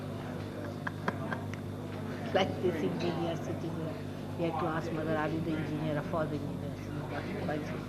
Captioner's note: shri mataji laughs